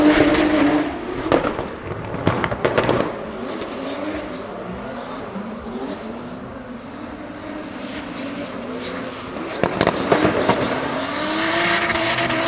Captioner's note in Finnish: moottorin ääntä